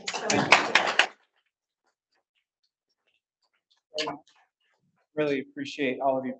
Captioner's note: audience applauds, audio cuts